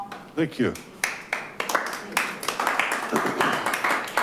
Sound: audience applauding

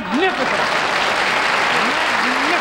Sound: applause

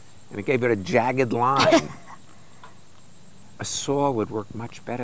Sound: laughs

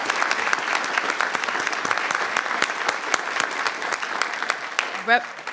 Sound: audience applauding

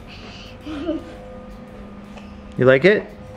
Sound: laughing

